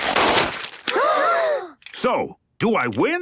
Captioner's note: all gasp